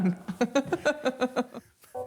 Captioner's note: laughing